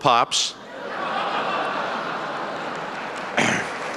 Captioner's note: laughter and applause